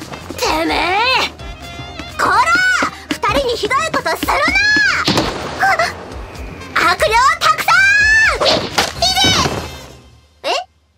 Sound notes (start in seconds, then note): 8.4 smack